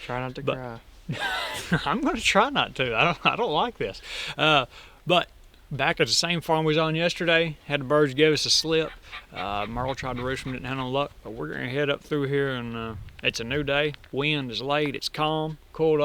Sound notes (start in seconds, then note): 1.1 laughing; 8.2 turkeys gobbling